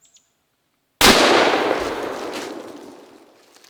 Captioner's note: gun Firing